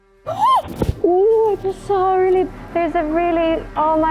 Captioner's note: gasps